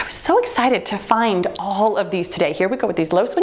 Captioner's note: timer beeps